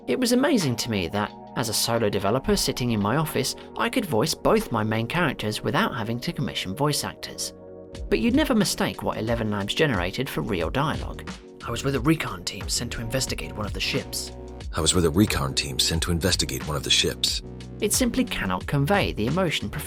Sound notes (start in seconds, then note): 11.9 real voice